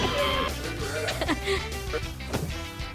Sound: laughing

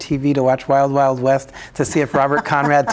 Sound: laughing

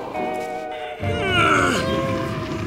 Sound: grunting

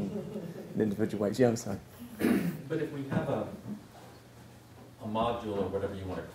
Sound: laugh

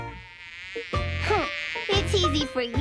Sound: bee buzzes

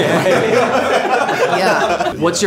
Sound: group laughing

